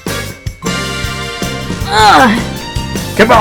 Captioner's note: l groans